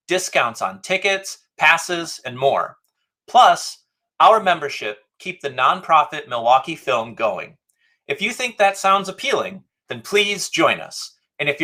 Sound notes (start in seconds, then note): none